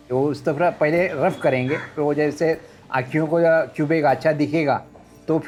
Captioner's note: speaking foreign language